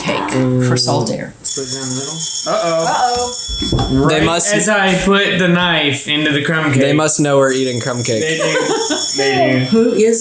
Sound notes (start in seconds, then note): 1.4 phone rings; 8.2 giggles